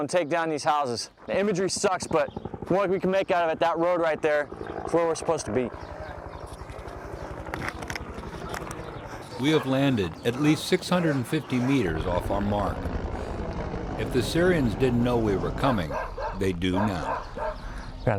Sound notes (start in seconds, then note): 5.9 helicopters flying overhead; 9.6 voiceover